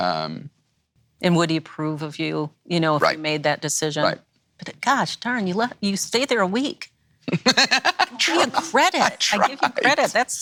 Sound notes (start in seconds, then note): 7.3 laughs